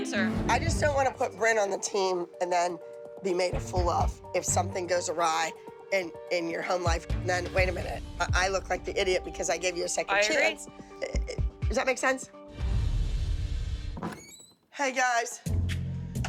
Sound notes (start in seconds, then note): 13.9 door opens